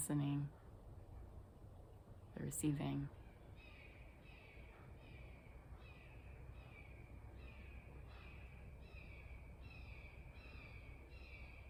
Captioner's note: hawk sounding